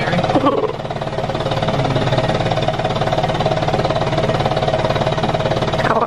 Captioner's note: vest machine vibrating